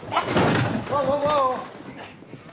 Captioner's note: thud